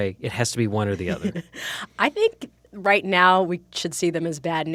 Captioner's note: chuckles